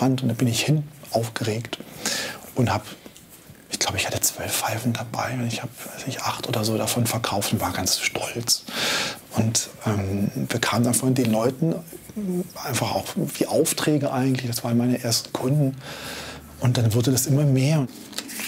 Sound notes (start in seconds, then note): none